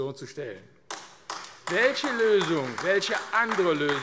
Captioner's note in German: Beifall AfD